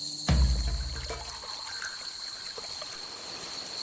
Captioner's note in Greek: ήχος νερού που τρέχει